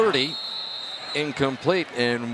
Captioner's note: whistle